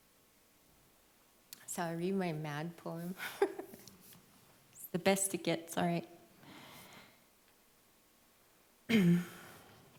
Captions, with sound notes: Shall I read my mad poem? [LAUGHS] It's best you get, sorry.